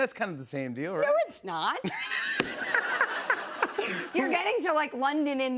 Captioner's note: laughter